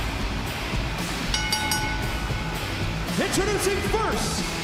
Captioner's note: bell ringing